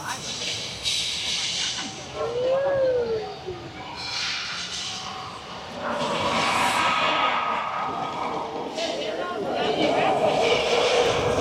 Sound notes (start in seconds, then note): 0.8 suspensful music; 7.6 dinosaurs growling